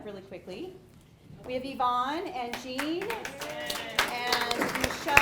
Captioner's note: audience applauds